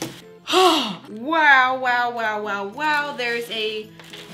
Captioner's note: sighs